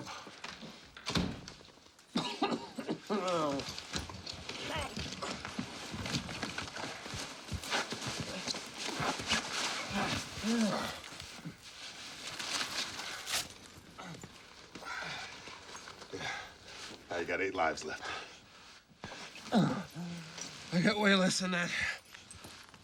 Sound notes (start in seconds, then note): 2.1 coughing